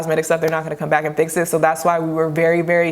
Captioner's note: claps hands